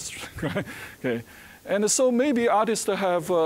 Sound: chuckling

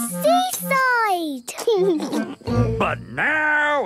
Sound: laughing

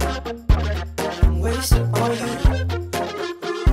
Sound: hoo hoo

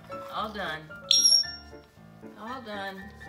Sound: high pitch sound

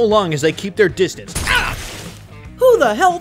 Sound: stink bomb booming

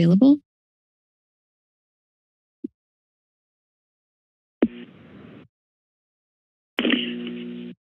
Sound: silence

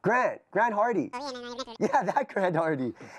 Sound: super fast cartoon voice over telephone

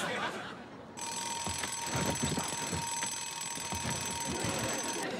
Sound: alarm ringing

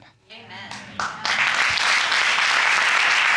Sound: audience clapping

